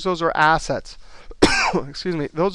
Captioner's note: coughing